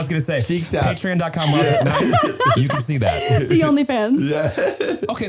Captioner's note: laughing; both laughing